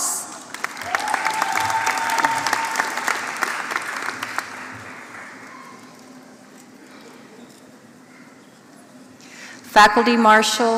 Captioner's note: applause